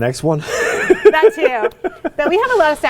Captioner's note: laughing